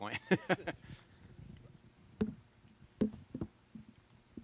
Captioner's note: laughter